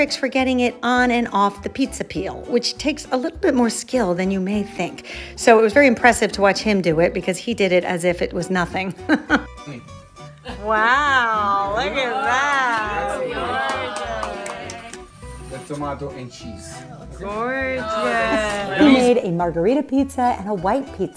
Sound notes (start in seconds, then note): 10.4 laughs; 12.2 participants cheer